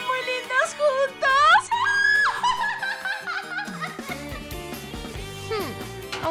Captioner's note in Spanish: Grito fujoshi